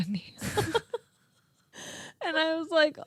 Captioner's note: both laughing